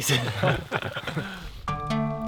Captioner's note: all laugh